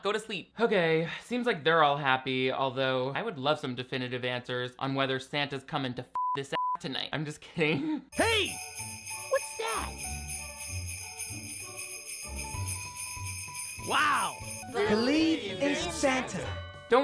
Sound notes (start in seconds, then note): 6.2 beep; 10.2 christmas bells ringing